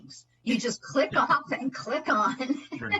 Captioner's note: laughter